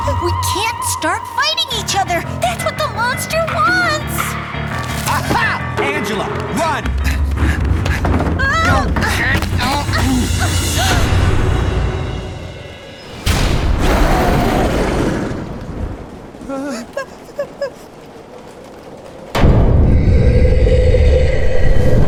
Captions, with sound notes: We can't start fighting each other. That's what the monster wants. Angela, run! Agh! [boom] [boom] [whimpering] [boom]